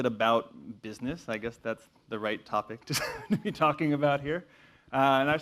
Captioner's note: laugh